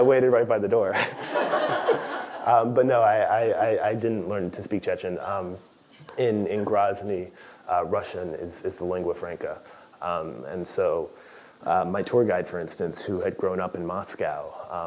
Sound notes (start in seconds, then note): 0.9 laugh